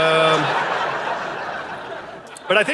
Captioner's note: audience laughing